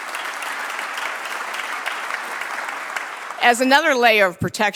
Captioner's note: applause